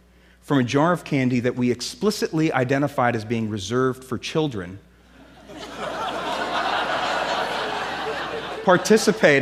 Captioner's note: laughter